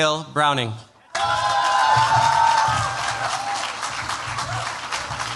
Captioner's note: cheers, applause